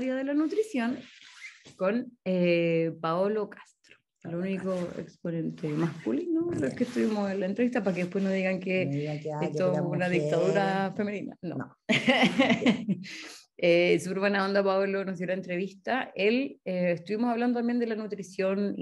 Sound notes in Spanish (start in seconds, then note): 11.9 risas